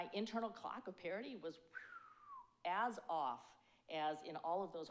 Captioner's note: exhales